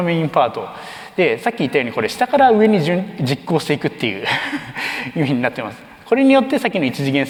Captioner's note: chuckles